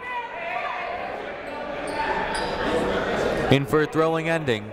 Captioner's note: people shouting in the crowd